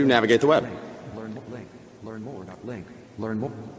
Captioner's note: electronic Voice